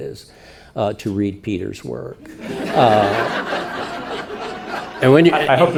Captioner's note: audience laughing